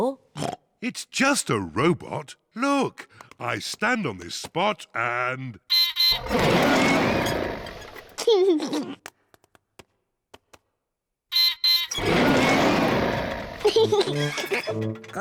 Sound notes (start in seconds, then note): 0.4 oinks; 6.0 beeps and roars; 8.2 laughs; 11.2 beeps and roars; 12.9 laughs